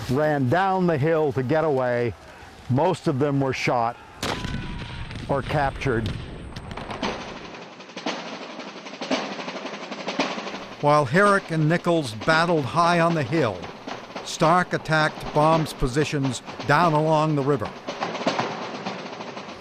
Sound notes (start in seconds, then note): 4.2 gun firing; 6.9 lively drumming